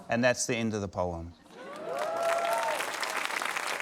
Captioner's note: cheering, applause